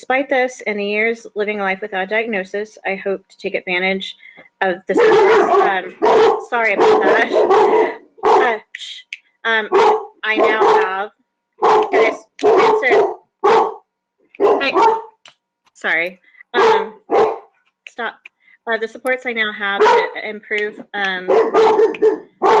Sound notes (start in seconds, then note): 11.6 dogs barking